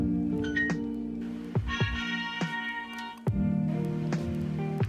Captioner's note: ding; success trumpet